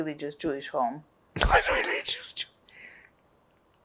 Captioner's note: laughing